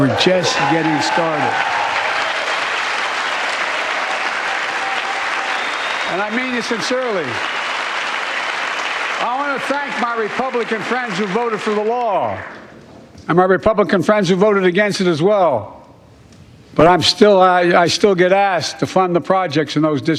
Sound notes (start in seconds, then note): 12.0 cheers and applause